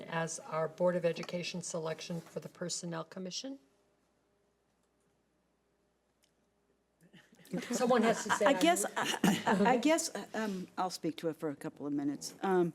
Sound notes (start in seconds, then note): 7.5 laughing